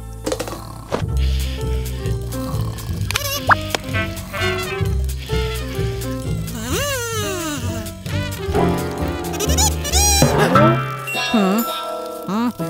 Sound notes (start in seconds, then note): 8.5 buzzes